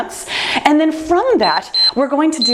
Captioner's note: timer beeps